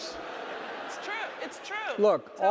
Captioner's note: audience laughing